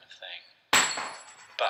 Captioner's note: coin hitting floor